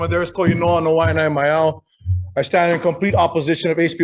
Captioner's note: speaks in foreign language